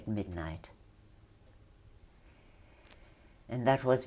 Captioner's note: pauses for 3 seconds